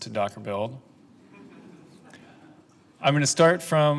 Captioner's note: laughing